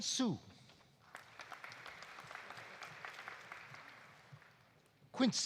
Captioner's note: audience applauding